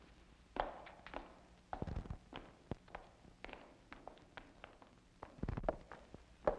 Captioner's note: departing footsteps